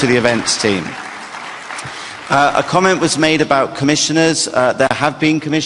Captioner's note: applause